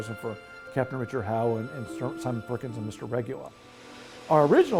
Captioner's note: mutters